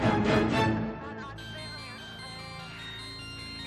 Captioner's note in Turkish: Telefon çalıyor